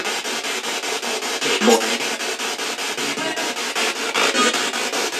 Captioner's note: spirit box chatter